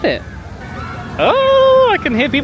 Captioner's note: child screaming